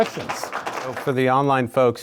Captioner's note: audience applauds